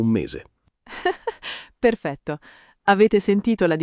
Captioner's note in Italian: Haha